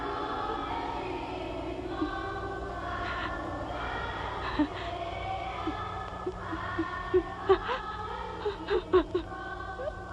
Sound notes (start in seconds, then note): 4.9 Liora gasps; 8.3 sobbing